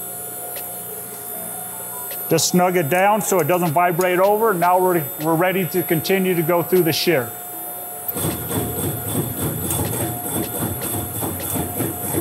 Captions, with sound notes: Just snug it down so it doesn't vibrate over. Now we're ready to continue to go through the shear. (machine knocking)